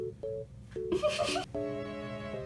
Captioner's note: lols